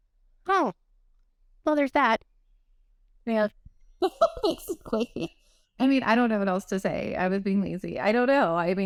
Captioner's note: laughter